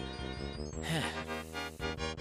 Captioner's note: sigh